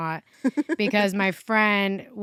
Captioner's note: chuckles